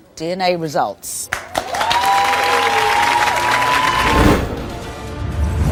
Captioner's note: audience cheers and applauds